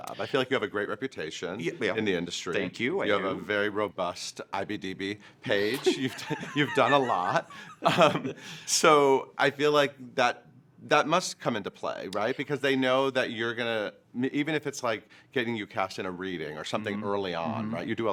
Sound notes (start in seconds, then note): 5.6 laughing; 8.2 chuckles